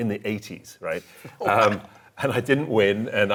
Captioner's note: chuckling